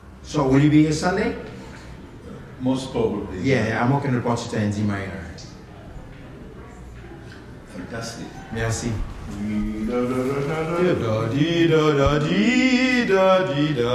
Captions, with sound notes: So will you be here Sunday? - Most probably. - Yeah, I'm working on Partita in D minor. - Fantastic. - Merci. [humming]